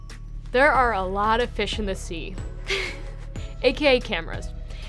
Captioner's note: bouncy pop music; laughs